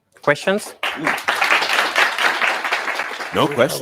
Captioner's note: audience applauding